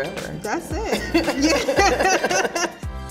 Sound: laughing

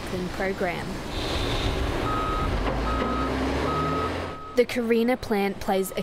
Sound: construction and machinery noises

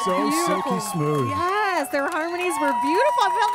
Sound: applause

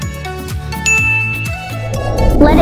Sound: ding noise; light music

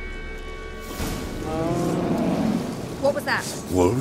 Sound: distant bellow

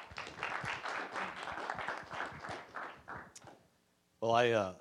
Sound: applause

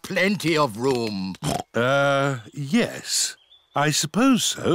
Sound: oinks

